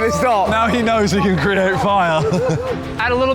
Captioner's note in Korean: 웃음